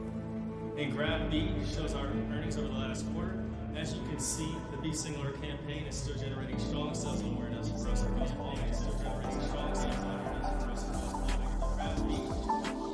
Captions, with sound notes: And Graph B shows our earnings over the last quarter. And as you c can see, the Be Singular campaign is stitill generating strong sales and awareness across all majajor demographis and product lines. [speaking continueues, distort] [sensual music]